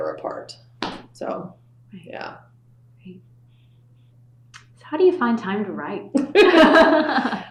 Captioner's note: laughter